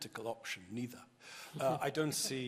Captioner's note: chuckling